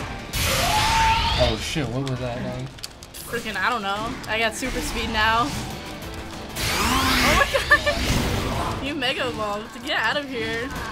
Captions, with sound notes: (Suicine shrieks) - Oh shit. What was that? - Fricking I don't know. I got super speed now. (Charizard snarls) Oh my god! You Mega evolved. Get out of here.